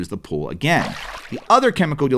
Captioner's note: water splashing